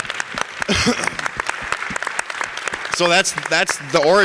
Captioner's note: audience applause